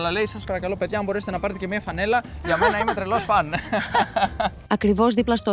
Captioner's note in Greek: γέλια